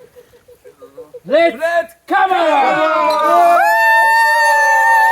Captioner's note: cheering